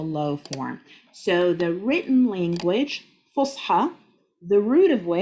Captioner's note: speaking Arabic